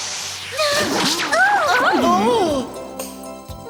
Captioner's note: exclaiming